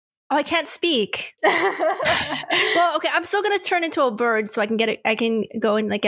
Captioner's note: laughs